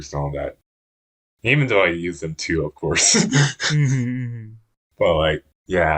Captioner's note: laughs